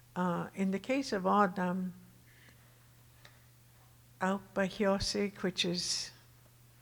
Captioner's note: speaking Tohono O'odham